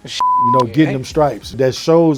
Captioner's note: beep